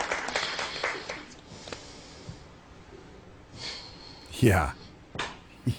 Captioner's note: breathing deeply